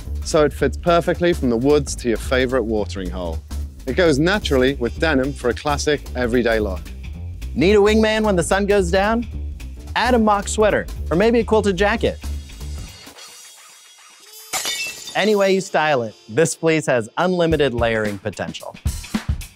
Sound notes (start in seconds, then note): 14.2 glass breaking; 19.3 upbeat music